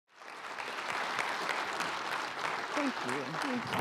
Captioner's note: applause